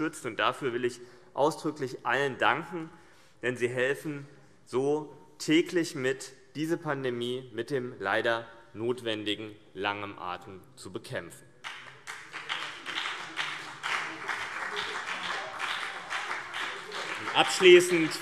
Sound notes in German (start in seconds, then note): 11.6 Beifall CDU und BÜNDNIS 90/DIE GRÜNEN